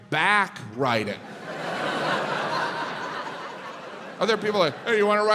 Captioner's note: crowd laughs